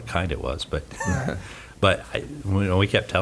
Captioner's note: he laughs